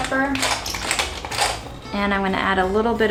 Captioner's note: scraping sound